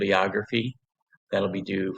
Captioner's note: pause